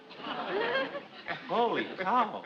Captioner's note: audience laughs